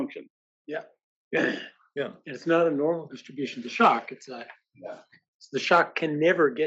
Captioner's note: cough